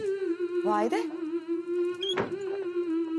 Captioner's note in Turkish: none